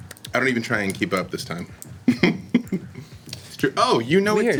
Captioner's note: laughs